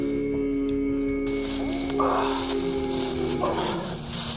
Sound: howling

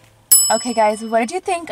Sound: bell chime

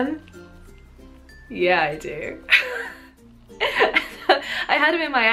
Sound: laughing

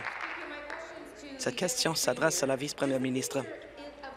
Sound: applause

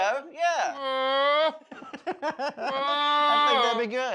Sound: laughter

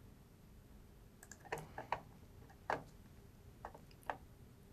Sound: mouse clicks

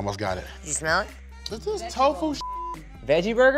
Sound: beep

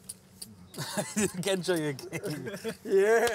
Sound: laughter

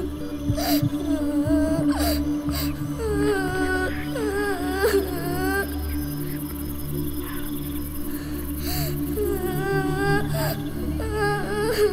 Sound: baby girl crying

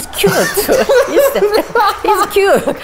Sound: laughs; laugh

